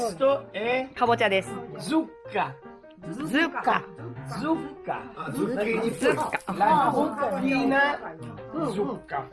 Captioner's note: Italian